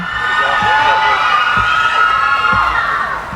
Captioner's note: cheering